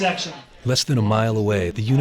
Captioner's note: voiceover